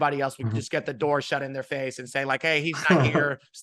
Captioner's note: laughing